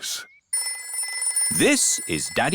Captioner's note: phone rings